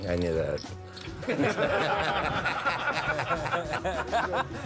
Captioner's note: laughter